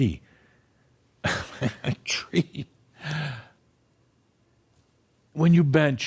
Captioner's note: Adamus chuckles